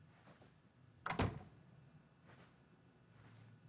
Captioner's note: door closes